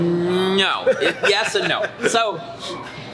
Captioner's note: laughter